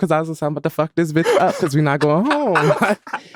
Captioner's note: laughing